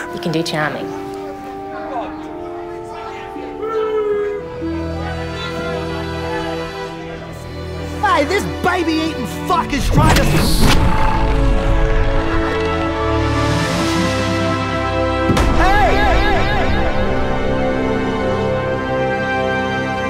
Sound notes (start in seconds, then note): 0.0 laughs; 3.8 voiceover; 5.1 melodramatic music; 11.7 dramatic music